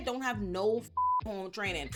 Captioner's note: beep